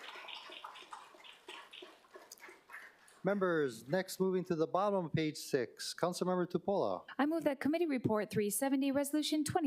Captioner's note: applause